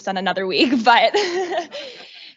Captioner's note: chuckles